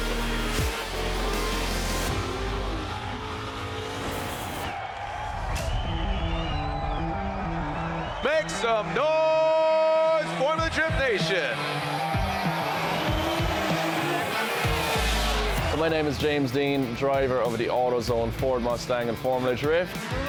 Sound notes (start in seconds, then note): 0.0 engine revving; 4.2 crowd cheering; 12.2 upbeat music